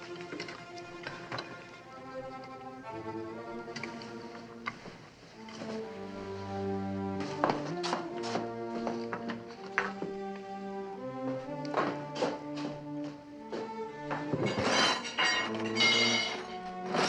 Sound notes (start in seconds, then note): 14.1 metallic clanging